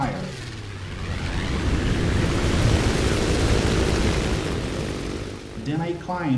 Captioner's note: aircraft Engines ,Gunfire, Flying Sounds